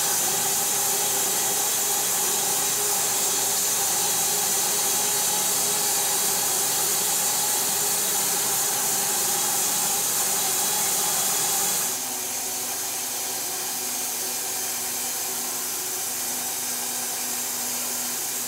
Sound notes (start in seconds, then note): 2.7 saw buzzes